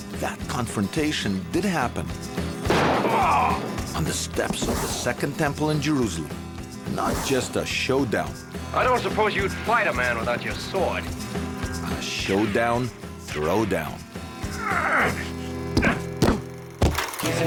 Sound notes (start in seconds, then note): 2.6 gunshot pops; 3.0 man grunts; 14.4 man grunts; 15.6 man thuds